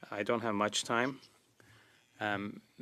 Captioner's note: speaking French